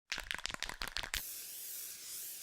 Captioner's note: spray can rattling; spray paint hissing